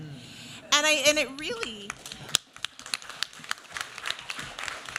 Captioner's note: applause